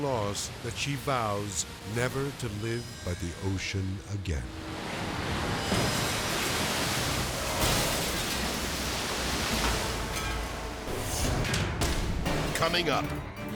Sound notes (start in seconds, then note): 4.4 edgy dramatic music; 7.4 waves exploding; 11.2 dramatic whoosh